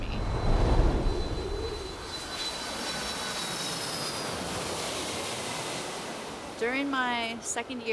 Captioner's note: airplane flying